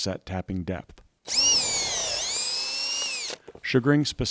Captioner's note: drill whirring